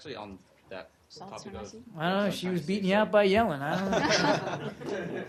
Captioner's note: laughter